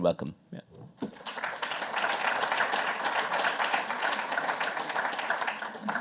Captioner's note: applause